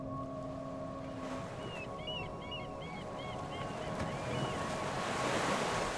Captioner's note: seagull squawking